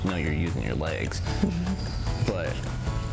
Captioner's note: chuckles